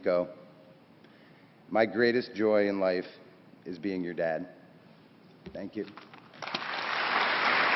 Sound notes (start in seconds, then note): 6.3 applause